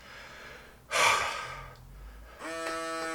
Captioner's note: sighs; machine buzzes